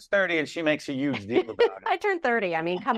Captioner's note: laughing